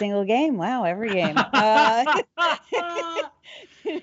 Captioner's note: laughing